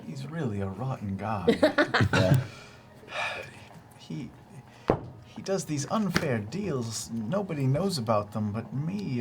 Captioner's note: sighs